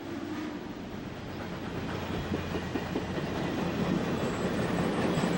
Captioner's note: train chugging